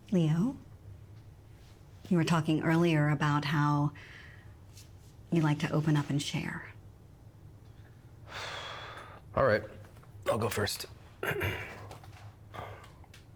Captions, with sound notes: Leo, you were talking earlier about how you'd like to open up and share. (Leo sighs) - Alright, I'll go first (clears throat).